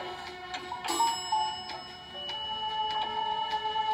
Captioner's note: elevator ding; elevator music